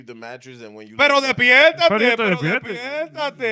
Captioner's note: speaking In Foreign Language